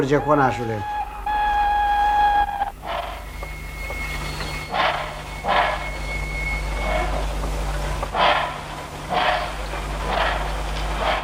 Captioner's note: the locomotive's siren signals departure. The train slowly begins to move